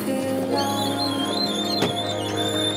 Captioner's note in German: Quietschen